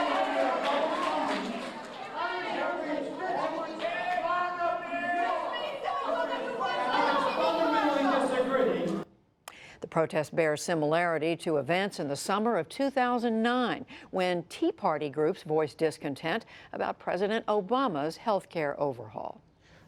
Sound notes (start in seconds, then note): 10.7 shouting